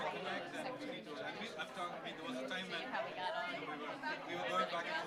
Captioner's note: crowd muttering